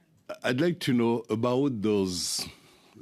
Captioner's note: speaking French